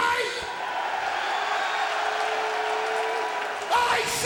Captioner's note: crowd cheering